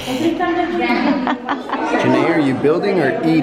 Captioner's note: laughing